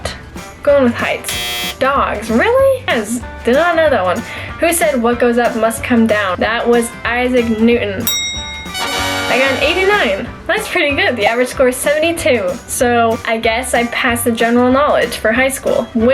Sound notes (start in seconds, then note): 1.2 buzzer; 8.0 bell ring; 8.5 upbeat music